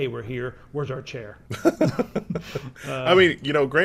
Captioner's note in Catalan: hahaha